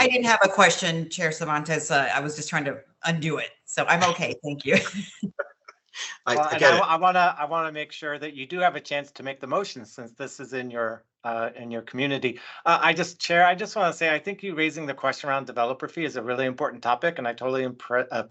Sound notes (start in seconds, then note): 6.3 laughter